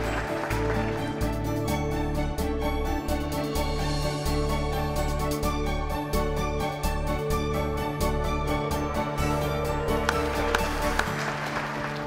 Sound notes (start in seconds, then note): 10.0 applause